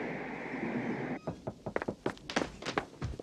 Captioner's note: knock on door